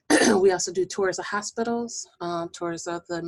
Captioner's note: clearing voice